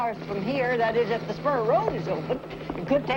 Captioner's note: helicopter whirring